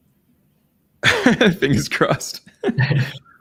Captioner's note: giggles